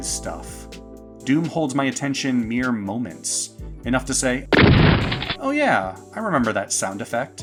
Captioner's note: shotgun blast